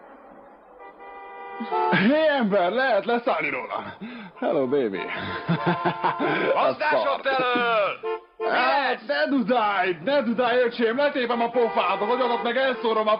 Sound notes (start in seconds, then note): 6.5 horns honking